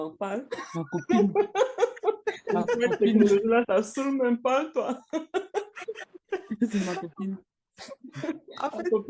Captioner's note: laughs